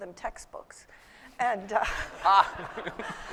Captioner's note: laughter